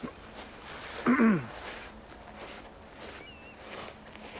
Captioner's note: throat clearing